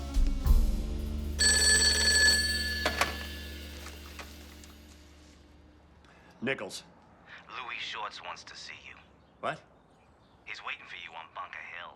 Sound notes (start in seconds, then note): 1.4 phone ringing; 4.8 investigative jazz music ends; 7.7 on phone